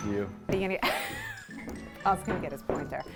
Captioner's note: laughing